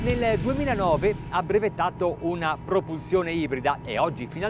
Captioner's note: speaks in foreign language